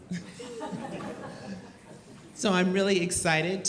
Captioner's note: and audience laughs